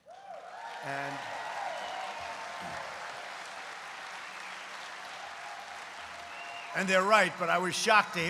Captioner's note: applause